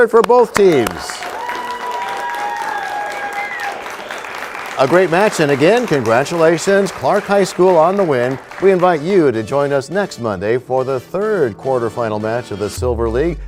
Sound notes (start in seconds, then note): 2.0 cheers and applause